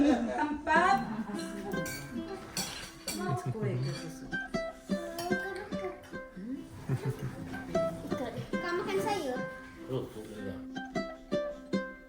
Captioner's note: background chatter